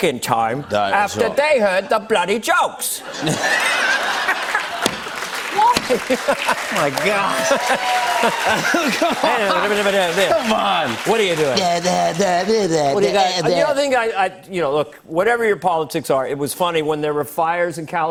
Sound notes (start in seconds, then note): 2.2 laughter and applause; 4.5 normal voice; 5.5 laughter continues; 8.5 speaking gibberish; 10.8 speaking gibberish